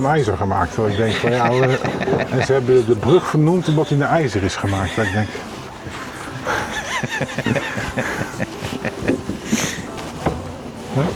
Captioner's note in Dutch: gelach